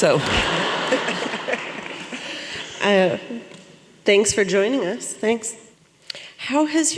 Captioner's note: laughter and applause